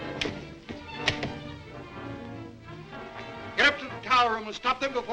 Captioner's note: desperate music; door rattles